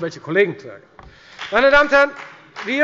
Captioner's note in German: Beifall bei der FDP